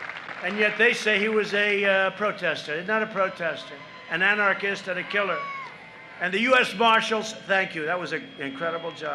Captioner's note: applause